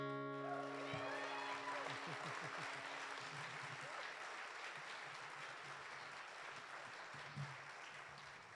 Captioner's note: applause